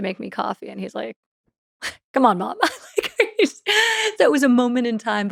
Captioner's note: laughs